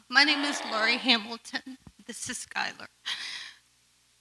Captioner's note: none